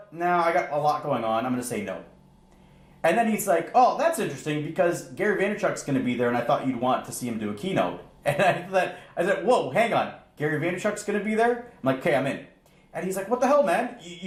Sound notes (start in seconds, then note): 8.2 chuckles